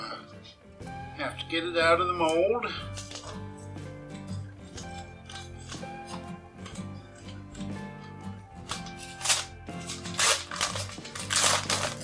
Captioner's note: tearing paper sounds